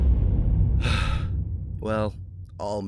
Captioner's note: sigh